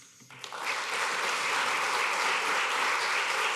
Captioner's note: applause